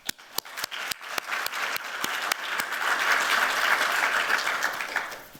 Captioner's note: applause